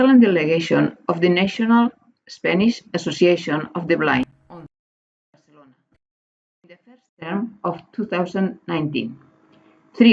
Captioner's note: Spanish